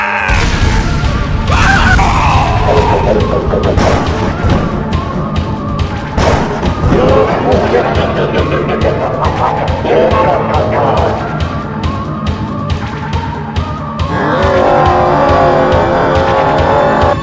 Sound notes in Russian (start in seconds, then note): 0.3 взрыв; 3.7 гром